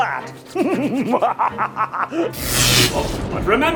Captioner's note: villainous laughter